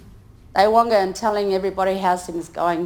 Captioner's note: speaks in foreign language